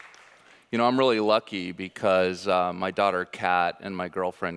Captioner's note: audience applauding